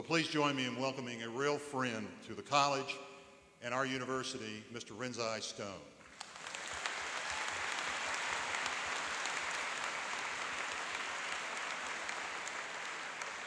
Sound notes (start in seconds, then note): 6.0 applauding and cheering